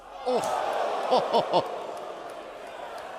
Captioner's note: crowd cheering